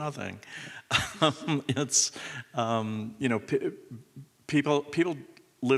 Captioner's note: chuckles